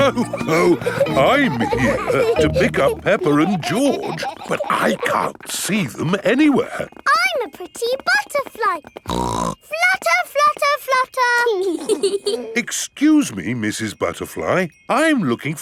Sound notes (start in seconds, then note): 0.0 laughs; 9.0 snorts; 11.6 both giggling